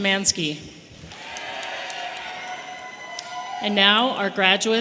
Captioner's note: audience applauding and cheering